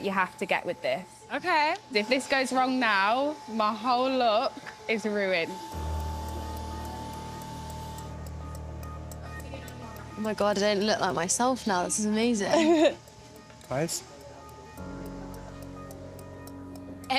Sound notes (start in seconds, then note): 5.7 dramatic music; 12.4 laughs